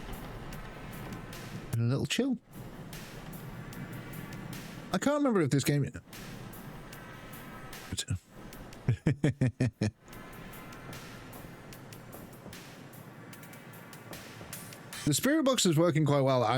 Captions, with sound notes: And a little chill. I can't remember if this game-- [LAUGHS] The spirit box is working quite well.